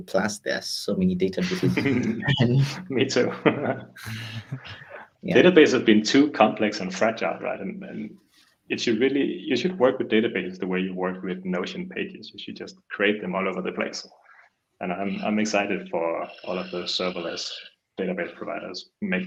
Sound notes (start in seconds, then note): 1.4 all laughing